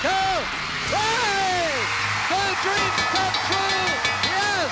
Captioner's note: cheering; bell rings